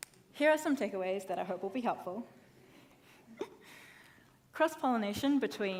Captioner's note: laughs